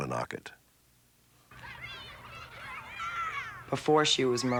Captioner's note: children playing